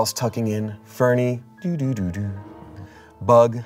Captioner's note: imitates computer shutdown sound